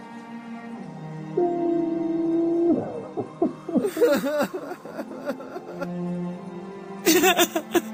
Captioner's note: more cries from attendants